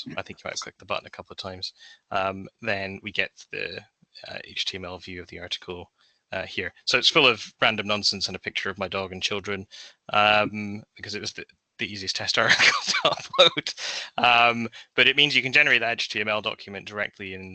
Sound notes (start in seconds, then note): 12.3 laughs